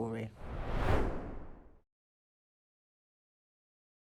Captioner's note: screen swooshing